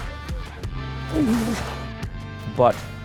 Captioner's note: grunts